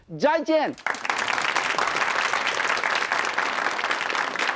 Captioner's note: applause